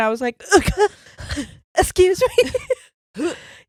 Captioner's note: splutters quickly